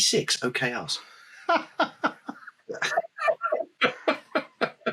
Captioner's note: laughing